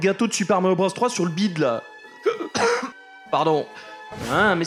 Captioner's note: cough